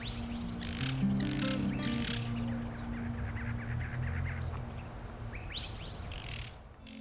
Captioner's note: music fades, birds call in the distance